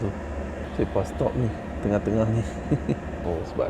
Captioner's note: laugh